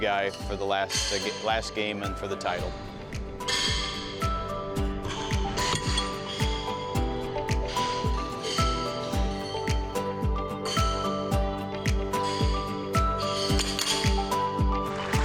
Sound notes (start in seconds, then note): 2.8 horseshoes clanking; 2.8 mellow music